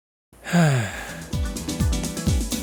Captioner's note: sigh